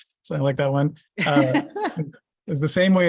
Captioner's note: laughter